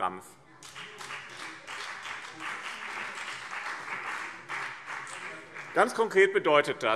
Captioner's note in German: Beifall BÜNDNIS 90/DIE GRÜNEN und vereinzelt CDU